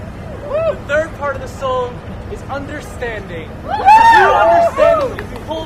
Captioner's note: audience cheers